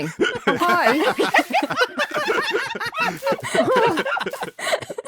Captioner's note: group laughs